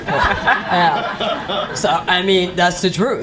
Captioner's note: laughing